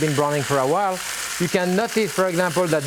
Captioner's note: meat sizzles